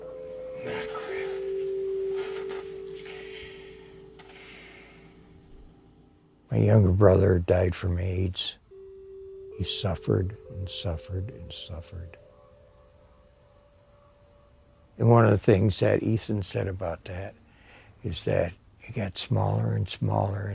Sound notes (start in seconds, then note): 2.9 sighing